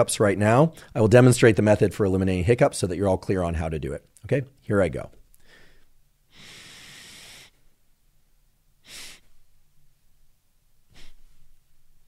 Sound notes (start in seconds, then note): 6.2 inhales deeply; 8.8 inhales; 10.9 inhales